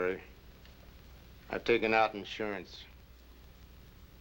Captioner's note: none